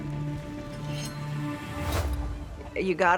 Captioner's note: knife cuts